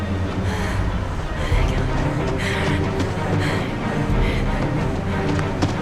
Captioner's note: woman breathing heavily